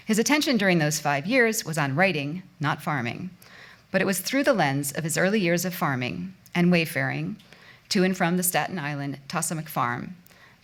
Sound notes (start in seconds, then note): none